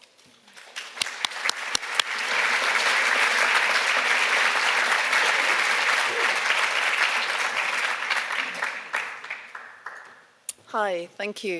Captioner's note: applause